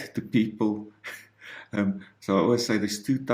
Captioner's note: giggles